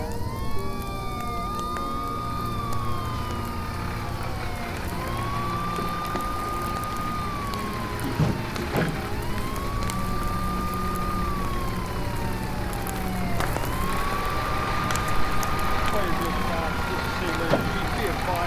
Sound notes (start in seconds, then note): 0.1 gentle music; 2.8 fire engine siren blaring; 6.6 gentle music; 9.8 fire raging; 13.3 fire engine siren blaring; 16.2 fire raging; 18.2 gentle music